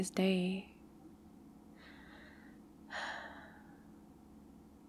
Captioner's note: sighs